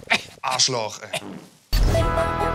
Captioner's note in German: Furz